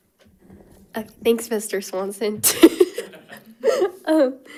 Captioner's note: laughs